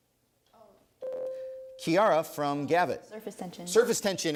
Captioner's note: ding